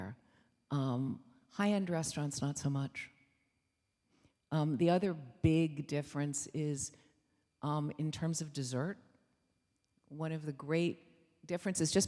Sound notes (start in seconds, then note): none